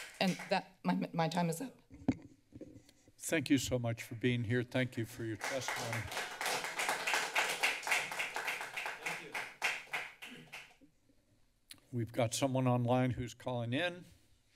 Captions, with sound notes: and that... my-my time is up. - Thank you so much for being here. Thank you for your testimony. [Applause] - Thank you. [clear throats] - We've got someone online who's calling in.